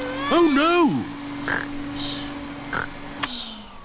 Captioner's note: snores; whirring stops